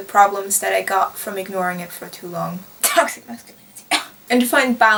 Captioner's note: cough